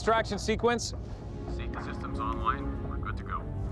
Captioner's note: computer voice